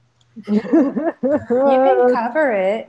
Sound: laughing

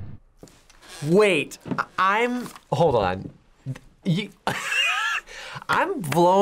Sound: laughs

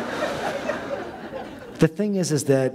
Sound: laughter

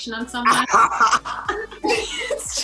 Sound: Quincy laughing

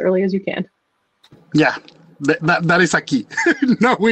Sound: laughs

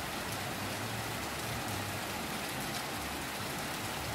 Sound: nature Sounds

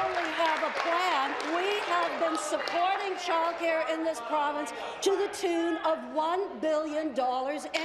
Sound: applause

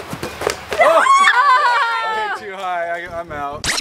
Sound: kids yelling

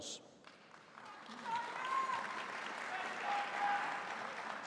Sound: audience applauding

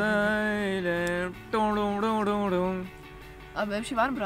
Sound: beatboxing

